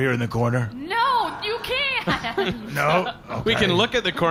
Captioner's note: laughing